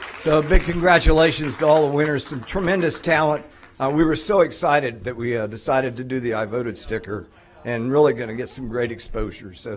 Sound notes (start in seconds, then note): 0.0 applause